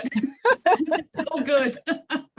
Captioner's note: laughs